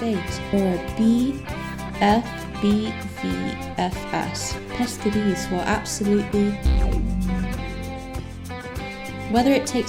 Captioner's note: Sims 2 Fear Fulfilment Noise